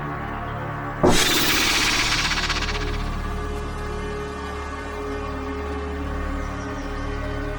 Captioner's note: snake rattles; snake hisses